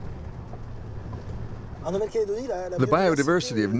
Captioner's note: speaking foreign language